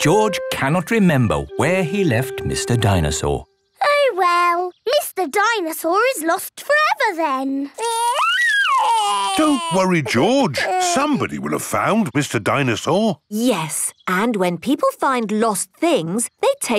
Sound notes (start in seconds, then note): 7.8 crying